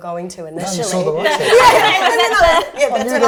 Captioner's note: laughter